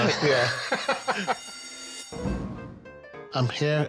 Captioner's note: laughs; fire bell rings